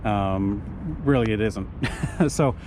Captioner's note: chuckles